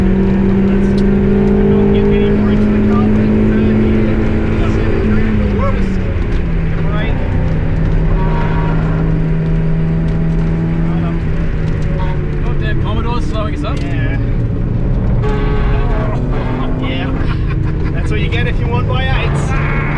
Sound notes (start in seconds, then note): 0.2 car engine roars; 8.1 car engine roars; 16.1 laughs